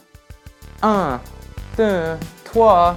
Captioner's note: upbeat music; speaking in French